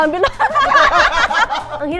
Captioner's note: laughs